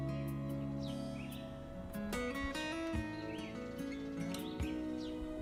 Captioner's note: birds sing